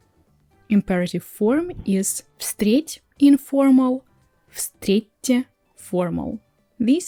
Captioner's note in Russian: неформально